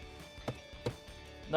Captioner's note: tap tap